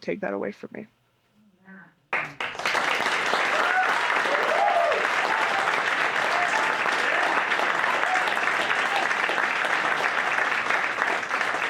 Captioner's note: audience applauding